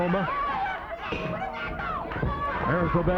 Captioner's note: bell ringing